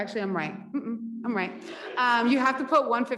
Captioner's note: audience laughs